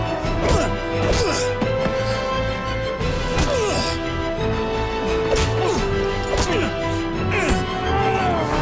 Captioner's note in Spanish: Ruidos de la lucha